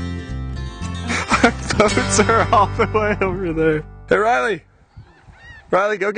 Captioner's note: laughing